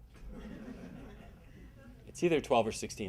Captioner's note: audience laughing